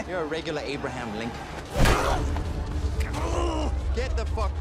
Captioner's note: grunting; thud